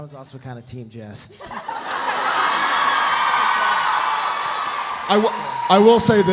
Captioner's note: panelists laughing; audience laughs